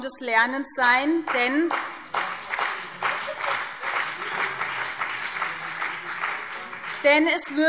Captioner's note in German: Beifall BÜNDNIS 90/DIE GRÜNEN und CDU